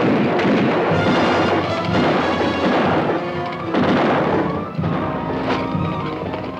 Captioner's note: guns fire; dramatic orchestral music